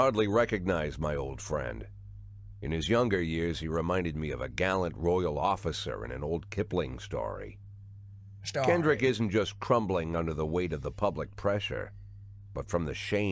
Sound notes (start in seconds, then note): 8.3 accented